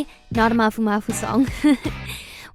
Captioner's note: laughs